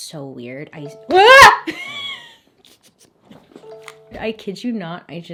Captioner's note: screams